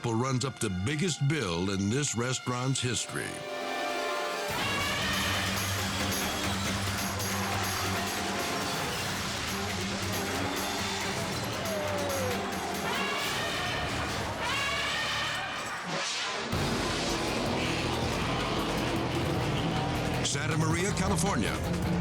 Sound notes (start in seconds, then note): 3.8 elephant trumpeting; 5.6 intense music; 12.8 elephant trumpeting; 15.6 scene swooshing; 16.6 upbeat music; 17.0 engines buzzing